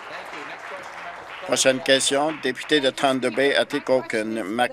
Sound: applause

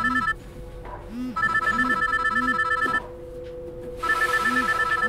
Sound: phone ringing

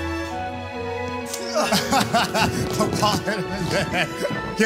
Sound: laughing

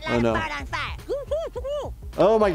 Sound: stifled murmurs

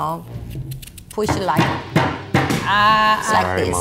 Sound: hammering

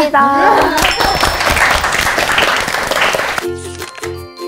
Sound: claps

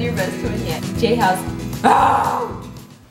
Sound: growls

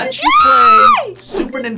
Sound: screams

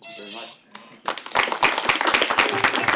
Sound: applause

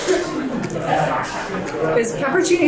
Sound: pepperoncini crunches

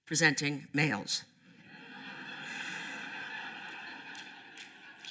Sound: laughter

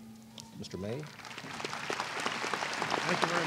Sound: applause

